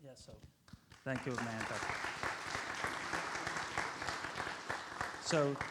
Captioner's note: audience applauds